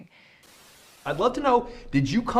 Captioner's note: static